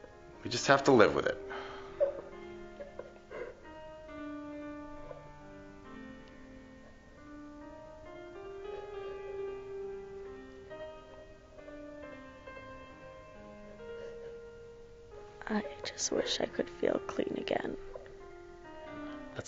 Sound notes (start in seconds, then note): 2.8 Sally crying; 6.4 dark piano music